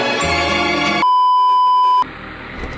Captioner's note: beeeeeep